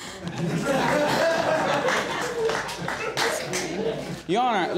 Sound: audience laughing

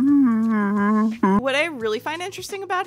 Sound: Peter Griffin walrus noises

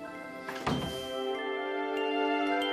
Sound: door closes

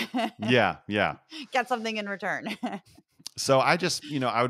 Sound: laugh; laugh

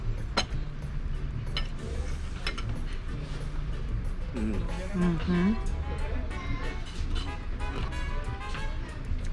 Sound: sounds of pure tasting pleasure

